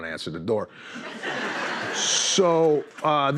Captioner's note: laughter